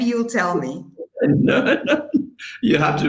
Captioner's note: laughing